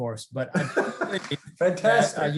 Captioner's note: laughs